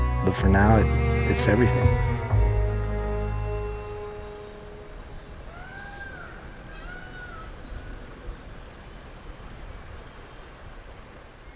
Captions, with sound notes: But for now, it's everything. (string music) (birds chirping and screeching)